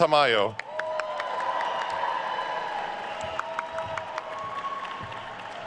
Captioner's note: attendees cheering and applauding